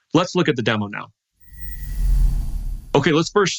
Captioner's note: air whooshes